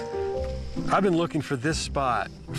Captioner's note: bright music fades; gravel crunching